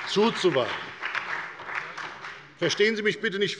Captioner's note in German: Beifall bei der FDP und bei Abgeordneten der SPD